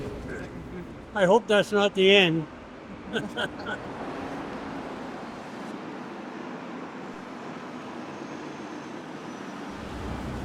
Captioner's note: passing bus sounds